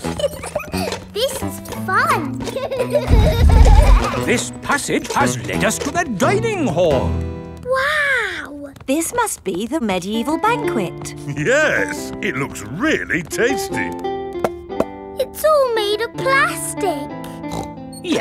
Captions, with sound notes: (GIGGLES) This is fun! This passage has lead us to the dining hall. Wow! This must be the medieval banquet. Yes! It looks really tasty! (HOLLOW TAPS) It's all made out of plastic! (SNORTS)